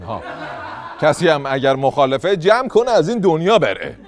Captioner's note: laughter